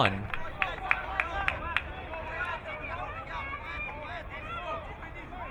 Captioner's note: crowd muttering